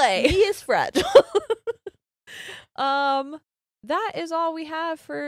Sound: both laughing

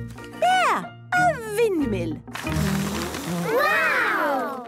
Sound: blows

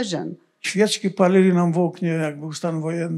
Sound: foreign language

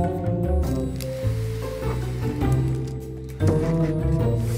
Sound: tray sliding

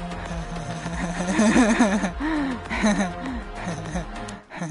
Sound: maniacal laughter

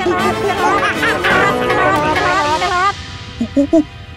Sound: monkey noises

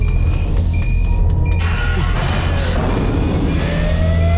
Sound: SOUND: sirens near

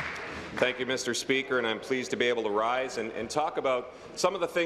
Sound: applause

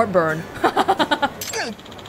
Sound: chuckles

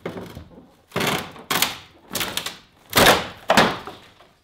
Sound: banging

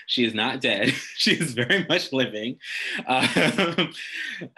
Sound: laughs

